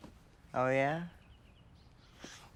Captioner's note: none